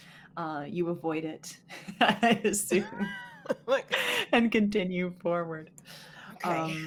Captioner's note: laughs